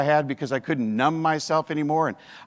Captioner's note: none